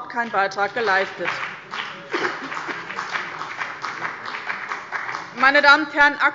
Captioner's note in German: Beifall bei dem BÜNDNIS 90/DIE GRÜNEN und der CDU